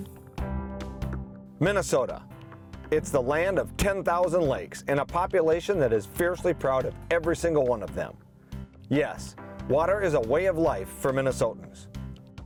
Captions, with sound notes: - [Voiceover] Minnesota: it's the land of 10,000 lakes, and a population that is fiercely proud of every single one of them. Yes, water is a way of life for Minnesotans,